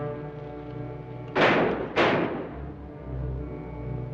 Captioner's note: gunshots